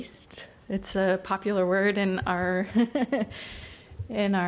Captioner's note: laughs